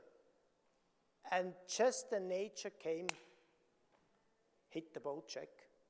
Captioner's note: slap smacking